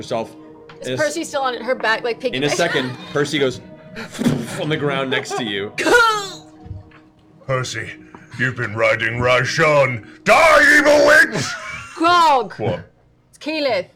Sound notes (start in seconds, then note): 4.2 thud; 5.7 pained noise